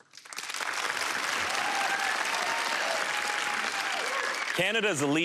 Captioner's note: cheering and applause